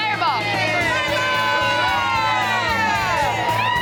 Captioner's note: excited chatter; shouting